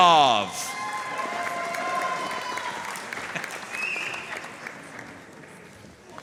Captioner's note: audience cheering and applauding